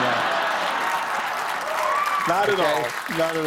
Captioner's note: applause